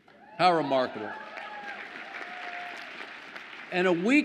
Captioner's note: audience applauds